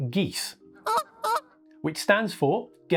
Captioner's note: goose honking